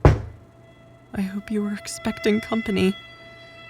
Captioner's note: scared